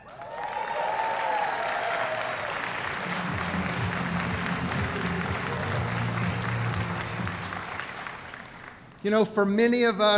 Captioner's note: applause